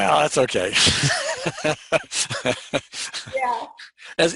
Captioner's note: chuckles